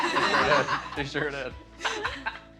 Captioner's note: laughter